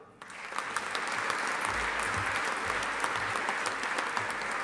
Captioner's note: audience applauding